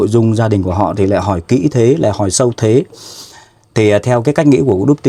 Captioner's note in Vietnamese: khịt mũi